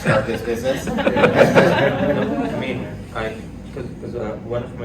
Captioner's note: laughter